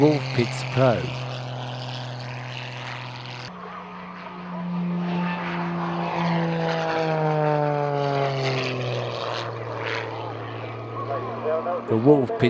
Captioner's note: aircraft sounds